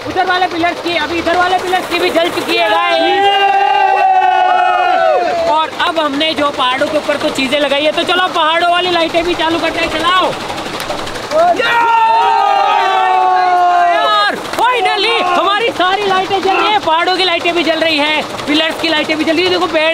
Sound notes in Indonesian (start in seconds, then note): 2.7 Teriakan; 10.2 Suara turbin; 11.3 Teriakan